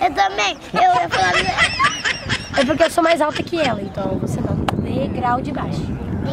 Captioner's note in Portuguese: laughing